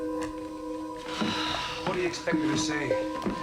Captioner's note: Nora sighs